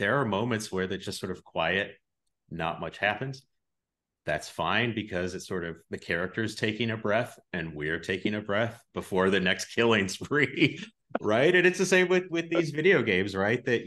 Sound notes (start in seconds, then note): 10.3 both laugh